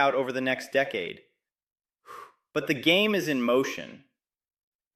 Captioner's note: exhales